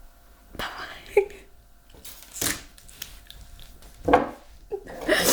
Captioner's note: crying